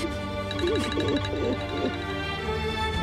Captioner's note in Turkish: Telefon çalıyor